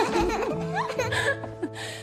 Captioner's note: laughing